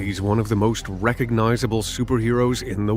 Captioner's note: movie trailer voice